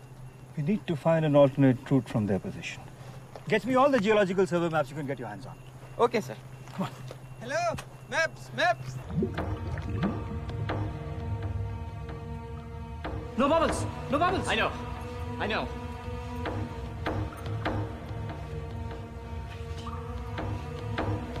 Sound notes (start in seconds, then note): 8.9 water bubbling; 16.8 eerie music